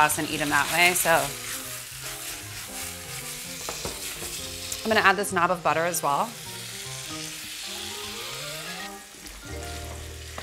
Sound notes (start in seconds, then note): 1.9 sizzling; 6.5 sizzling